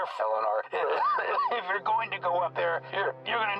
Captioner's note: coughs